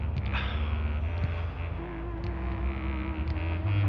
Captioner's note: sighs